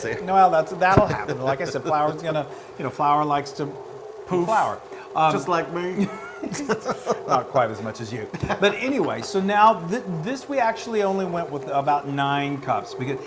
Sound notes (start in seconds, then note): 5.7 laugh